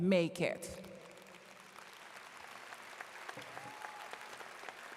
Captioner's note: audience claps